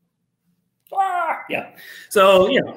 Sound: squawking

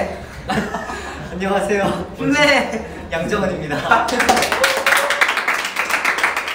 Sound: laugh

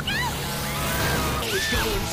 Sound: scream in Duel; screams in Fern Gully

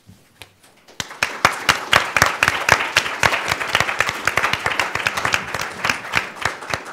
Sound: applause

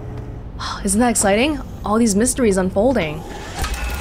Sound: sigh

